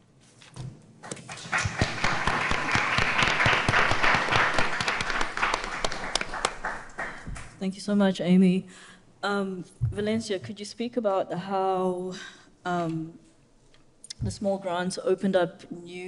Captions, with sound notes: (audience applauding) - Thank you so much, Amy. Valencia, could you speak about how the small grants opened up new avenues